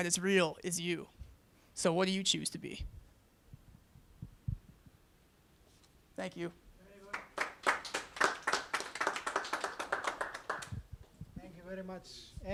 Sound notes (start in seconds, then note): 7.0 applause